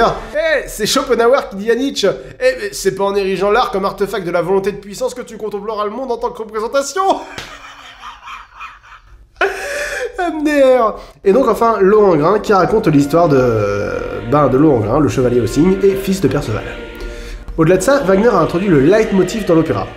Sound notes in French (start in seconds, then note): 10.3 rire